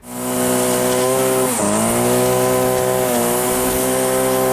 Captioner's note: trimmer buzzing